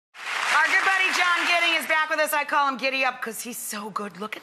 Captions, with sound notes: (applause) Our good buddy, John Gidding is back with us. I call him Giddy Up 'cuz he's so good lookin'.